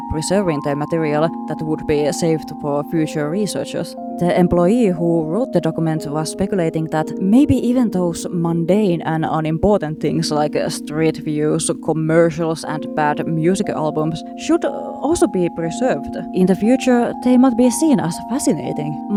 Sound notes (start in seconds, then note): none